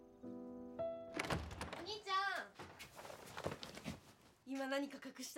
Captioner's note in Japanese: ドアが開く音